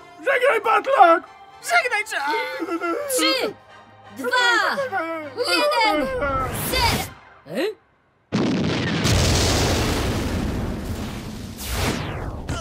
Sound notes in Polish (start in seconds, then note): 8.3 dźwięk wybuchu